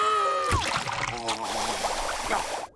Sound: screaming; gargling

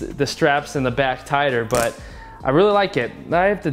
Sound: snaps click

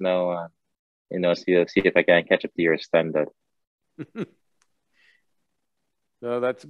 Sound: Sadhguru laughs

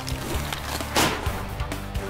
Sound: cards exploding; chair clank

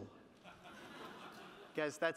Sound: audience laughing

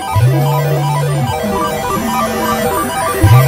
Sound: gasping

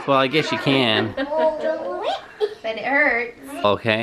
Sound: laughs

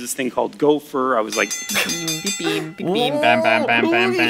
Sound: imitates a buzzer

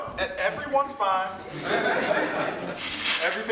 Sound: audience laughs

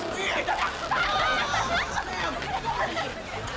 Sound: laughig

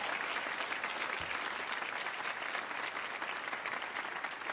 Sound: audience applauding

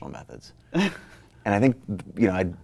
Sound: laughs

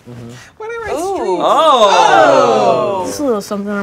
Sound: group exclaiming

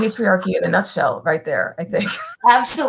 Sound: laughter

